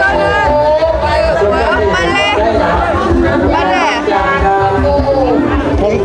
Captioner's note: laughing